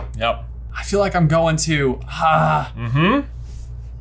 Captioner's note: grunts